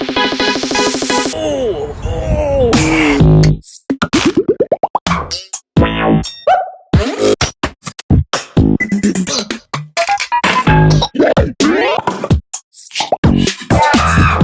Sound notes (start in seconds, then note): 1.3 ooh, oooh, OOOOH